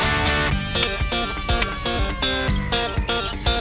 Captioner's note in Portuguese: Estalos